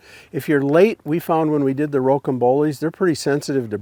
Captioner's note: none